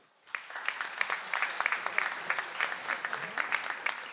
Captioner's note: audience applauds